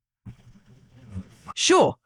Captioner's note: engine Revving